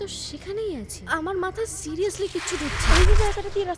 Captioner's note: voice echoed